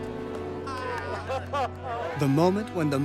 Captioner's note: laughter